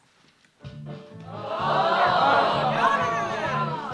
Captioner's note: groans ensue